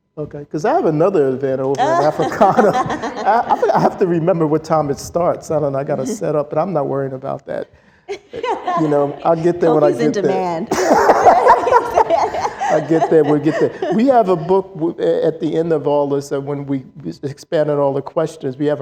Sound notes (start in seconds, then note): 10.6 laughter